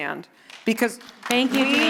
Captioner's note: audience applauding